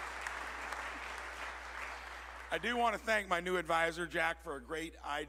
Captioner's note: applause